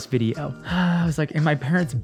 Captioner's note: exhales